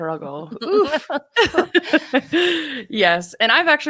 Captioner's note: women laughing